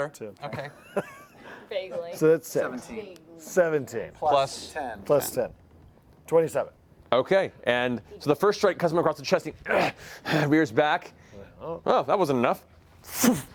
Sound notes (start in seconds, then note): 9.8 pants